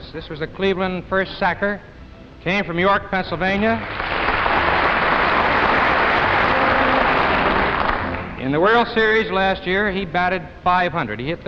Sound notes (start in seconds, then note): 3.7 audience applauding